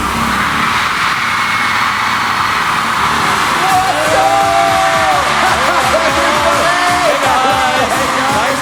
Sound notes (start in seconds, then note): 2.0 audience cheering